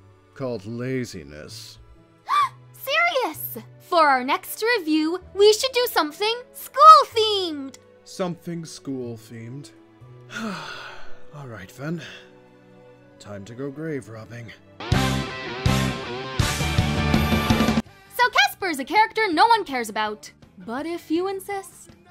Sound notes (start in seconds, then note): 2.2 gasp